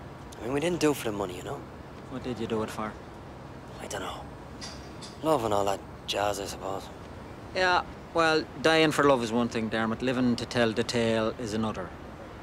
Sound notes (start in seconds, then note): none